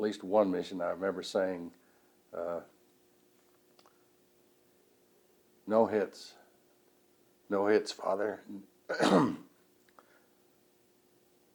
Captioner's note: clears throat